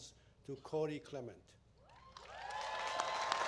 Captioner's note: applause